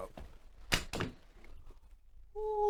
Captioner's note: thunk